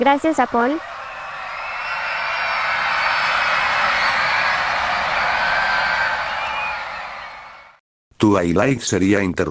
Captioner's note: screams